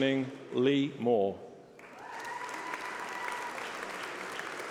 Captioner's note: applause